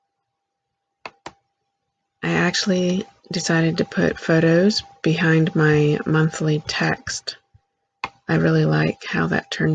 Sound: click; click

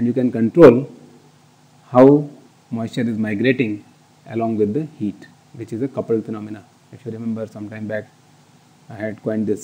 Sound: air conditioning

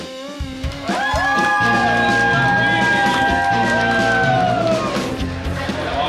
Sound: cheering and clapping

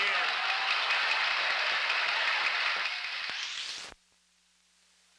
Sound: applause

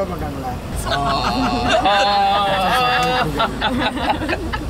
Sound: humming a song

